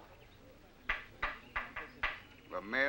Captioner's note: hammer banging